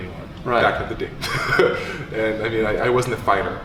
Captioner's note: laughing